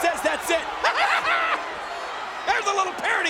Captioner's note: King laughs